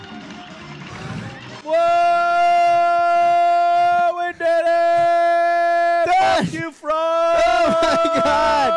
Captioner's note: loud cheering